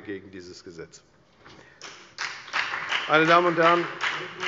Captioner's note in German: Beifall bei der FDP